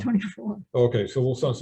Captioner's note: chuckles